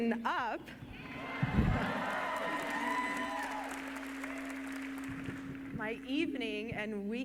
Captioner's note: cheering